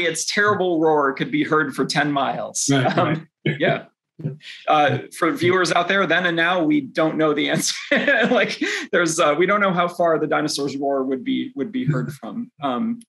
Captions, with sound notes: its terrible roar could be heard from 10 miles." -Yeah. [chuckles] -For viewers out there, then and now we don’t know the answer. We don’t know how far the dinosaur’s roar would be heard from,